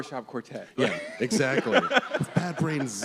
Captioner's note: laughs; laughter